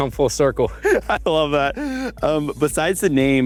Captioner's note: laughs